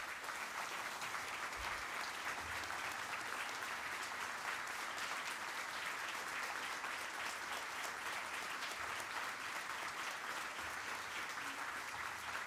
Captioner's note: applause